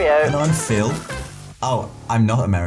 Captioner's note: in his “Brummie” accent